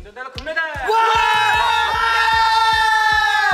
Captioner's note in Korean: 올림픽 메달 소식에 저절로 나오는 리얼한 환호성